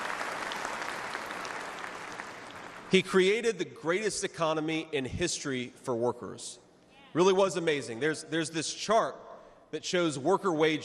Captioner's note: cheers and applause